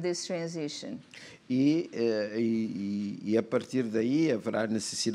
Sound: speaking portuguese

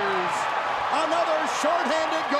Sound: crowd cheering

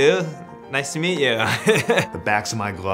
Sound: laughs

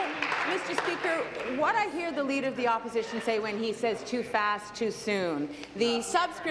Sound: applause

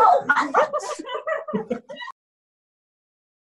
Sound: cheering

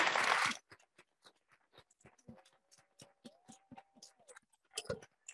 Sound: audience clapping

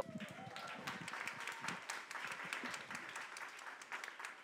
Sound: audience applause

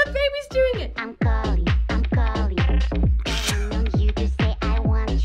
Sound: snickers

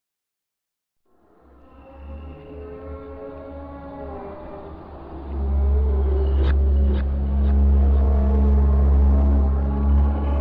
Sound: sound of demon haunting

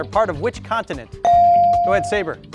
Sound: bell dings

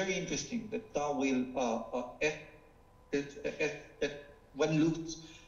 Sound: speaking foreign language

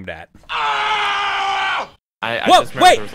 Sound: screams

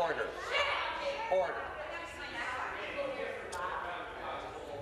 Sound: conversation din

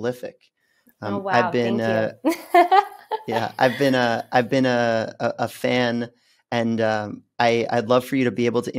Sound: laughs

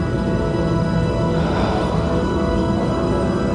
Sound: sighs

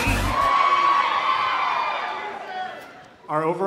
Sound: crowd cheering

